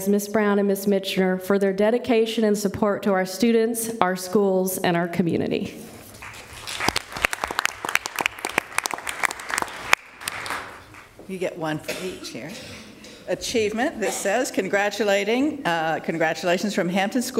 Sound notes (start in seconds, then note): 8.8 applause